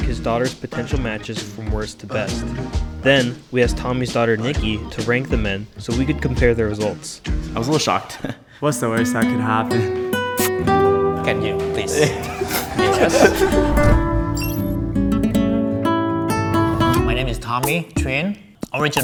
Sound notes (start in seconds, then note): 9.9 guitar music playing; 10.3 kissing sound; 11.8 all laughing